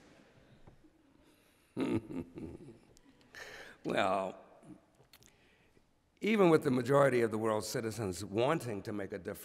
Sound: laughs

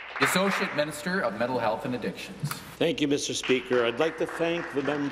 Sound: applause

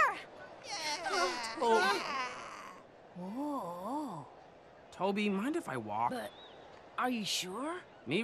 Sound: weak cheering

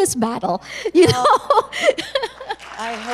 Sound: chuckle

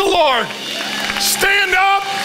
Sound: congregation applauds

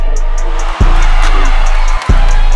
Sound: crowd cheering; trap music

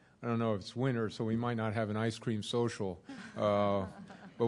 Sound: laughter

